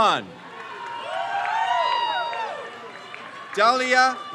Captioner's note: crowd cheers